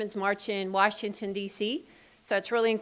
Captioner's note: none